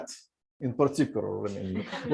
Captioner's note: laughter